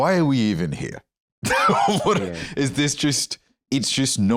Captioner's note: laughs